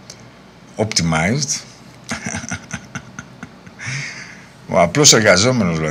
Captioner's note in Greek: γέλια